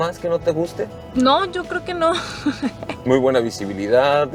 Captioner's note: giggles